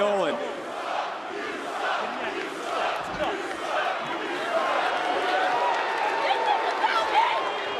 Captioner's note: crowd chants "you suck"